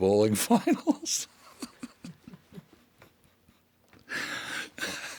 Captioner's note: John laughing